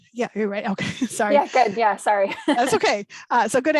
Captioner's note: laughs